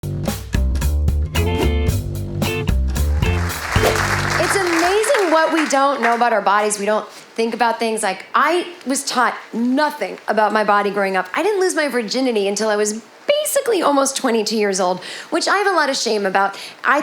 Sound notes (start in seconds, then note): 0.2 upbeat music; 2.9 audience applauding